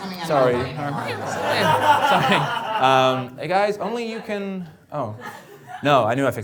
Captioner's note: murmuring